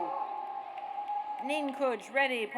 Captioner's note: audience cheers